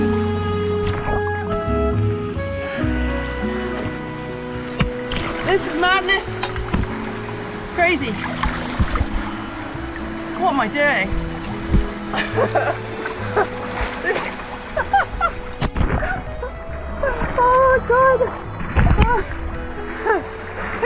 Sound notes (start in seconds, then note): 11.2 laughs; 14.8 unhinged laughing